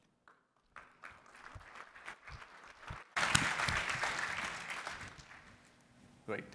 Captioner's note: applause